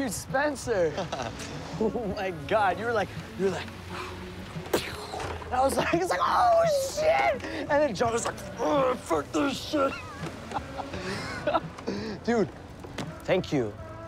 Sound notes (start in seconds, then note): 0.8 laughing; 9.9 laughing